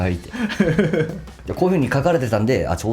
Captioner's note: laughs